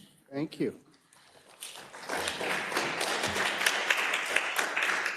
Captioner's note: attendees applauding